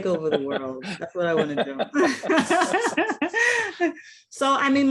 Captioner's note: laughs